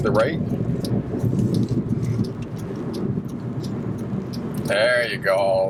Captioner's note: turn signals clicking